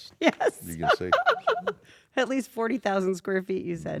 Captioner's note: laugh